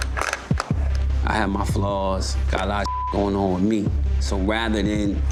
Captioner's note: beep